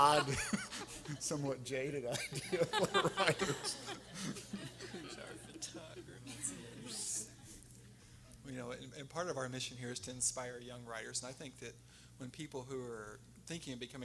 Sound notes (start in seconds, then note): 0.0 laughing; 3.8 everyone laughing